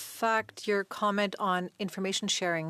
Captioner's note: speaking French